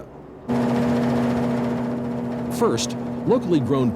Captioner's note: mechanical whirring